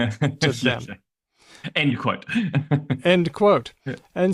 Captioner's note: laughs